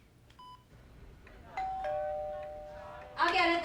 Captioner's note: doorbell ringing